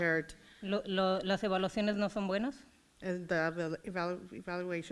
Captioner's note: foreign language